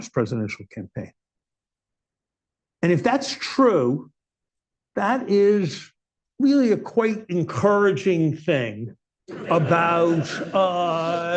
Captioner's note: laughter